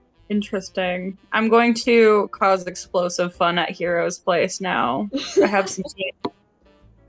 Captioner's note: laughs